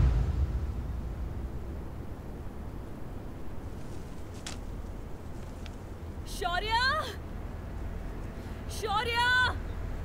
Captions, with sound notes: [Rope dropping] Shorya! Shorya!